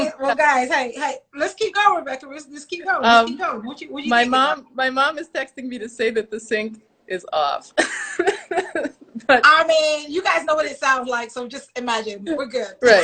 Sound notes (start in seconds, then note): 7.8 laughs